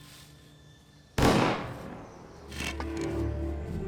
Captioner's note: gunshot